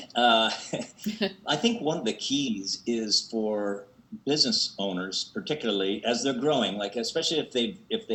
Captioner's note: laughs